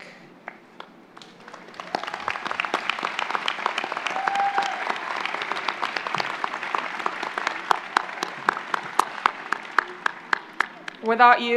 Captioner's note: applause